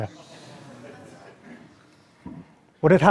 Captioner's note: laughter